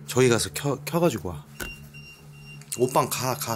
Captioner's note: beeping